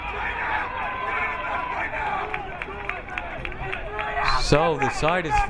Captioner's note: crowd member yelling